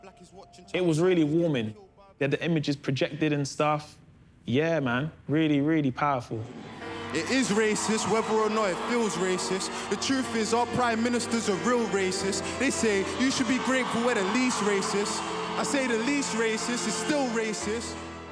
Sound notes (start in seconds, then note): 6.3 crowd cheering; 7.1 rapping